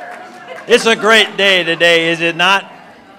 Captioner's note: applause